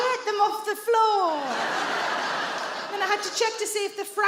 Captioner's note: audience laughs